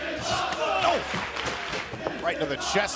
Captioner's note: fans chanting